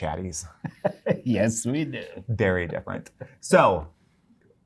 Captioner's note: laughing